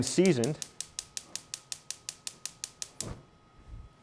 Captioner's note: stove clicking